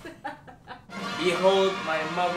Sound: children cheering

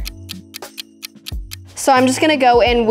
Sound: clock ticking

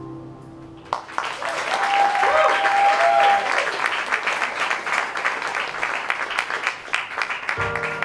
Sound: applause

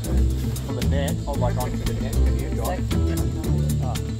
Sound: chatter

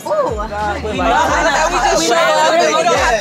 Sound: group chattering

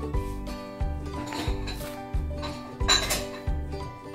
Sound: clattering

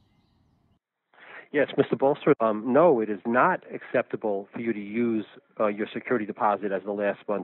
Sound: male Voice

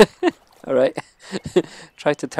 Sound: laughs

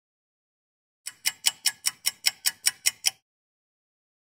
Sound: clock ticking

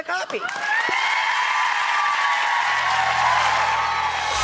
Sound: cheering and applause

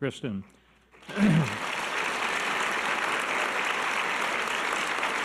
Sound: audience applause

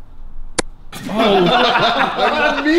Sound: whack; laughs

